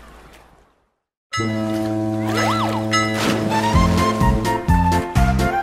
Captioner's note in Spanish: Bocina de barco; Sonido de marea; Música alegre